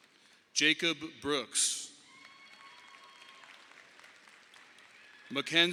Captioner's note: audience applauding; audience applauding